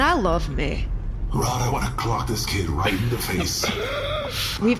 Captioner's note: quietly